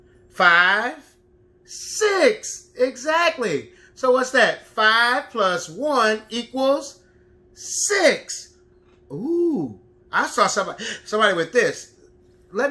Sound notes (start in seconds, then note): none